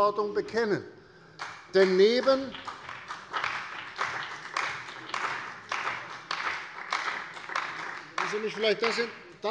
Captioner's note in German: Beifall bei der CDU und dem BÜNDNIS 90/DIE GRÜNEN